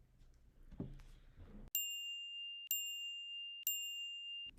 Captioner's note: timer chiming